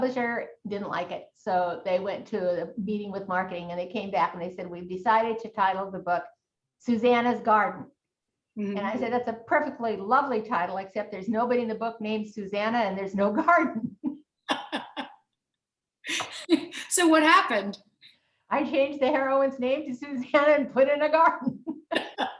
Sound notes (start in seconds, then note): 14.5 both laughing; 21.7 laughs